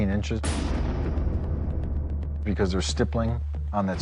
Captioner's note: gunshot